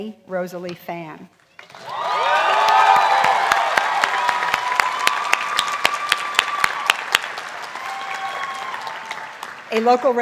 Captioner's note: applause; cheering